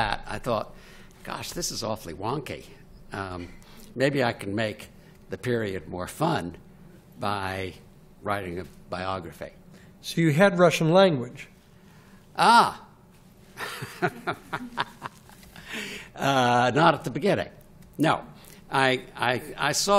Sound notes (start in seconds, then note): 13.6 laughs